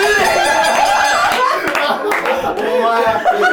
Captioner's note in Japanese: 一同・スタッフ：笑い